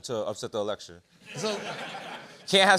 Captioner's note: laughter